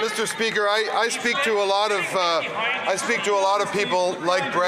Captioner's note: some Applause